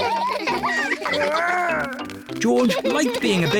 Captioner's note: all laugh